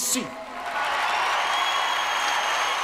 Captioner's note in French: acclamations